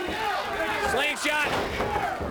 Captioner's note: crowd chatter